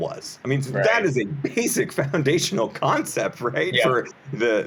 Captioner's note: laughs